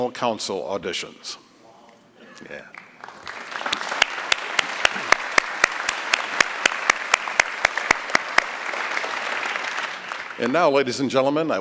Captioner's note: applause